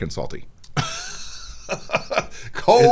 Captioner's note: laughs